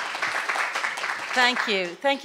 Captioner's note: applause